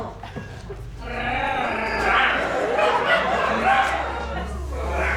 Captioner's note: men growl and purr